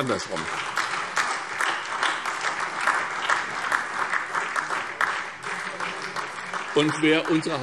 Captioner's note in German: Beifall SPD, Freie Demokraten und DIE LINKE